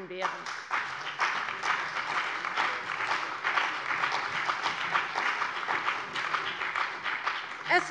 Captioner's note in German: Beifall bei der CDU und dem BÜNDNIS 90/DIE GRÜNEN